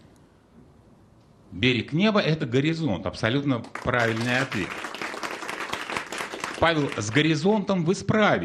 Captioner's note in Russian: аплодисменты